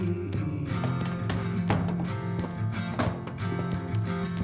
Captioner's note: books thudding